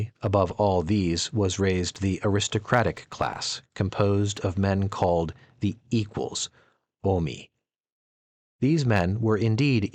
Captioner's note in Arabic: باليونانية